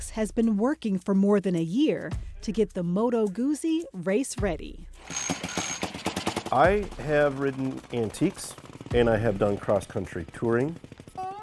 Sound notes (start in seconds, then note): 3.0 ringing bell, pumping pedal starter